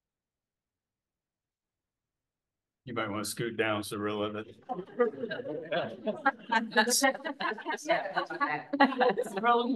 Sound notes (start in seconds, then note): 4.8 laughter